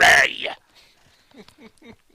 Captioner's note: laughter